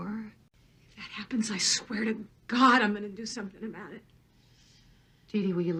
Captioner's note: on TV